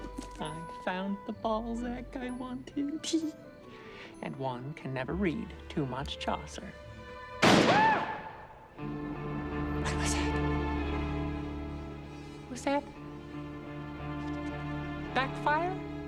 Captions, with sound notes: I found the Balzac I wanted, tee hee. And one can never read too much Chaucer. (GUNSHOT) Ahhh! (COMEDIC MUSIC ENDS) (TENSE MUSIC PLAYS) What was that? Was that backfire?